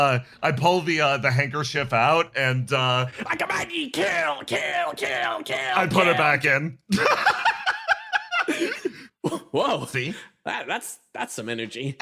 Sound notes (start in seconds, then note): 6.9 laugh